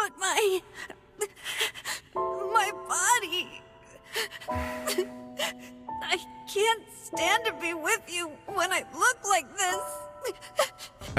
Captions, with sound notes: - But my... (sobbing) My body. I can't stand to be with you when I look like this. (crying)